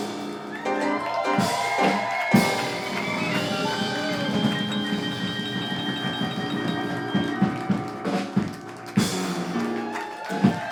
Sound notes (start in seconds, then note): 0.8 audience cheering and clapping